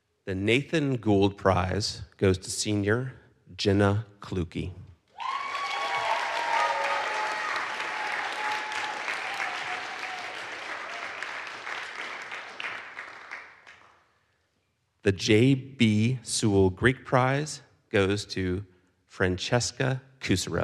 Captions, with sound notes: the Nathan Goold prize goes to senior, Jenna Clukey. (audience cheers) (audience applauds) The J.B. Sewall Greek Prize goes to Francesca Kusserow.